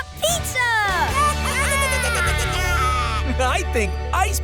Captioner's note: squeaking